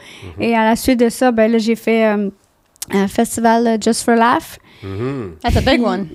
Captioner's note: in french